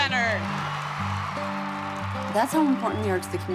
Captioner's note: crowd cheering and applauding